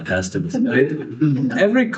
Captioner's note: laughing